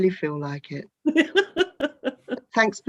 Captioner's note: laughs